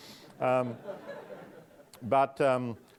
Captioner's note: audience laughing